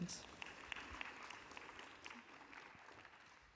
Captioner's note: applause